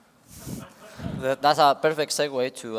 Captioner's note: laughter